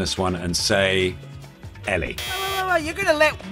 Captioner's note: buzzer sound